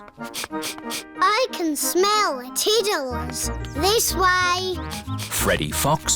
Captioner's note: sniffs